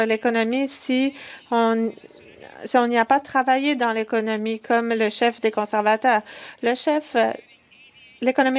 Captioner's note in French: voix de l'interprète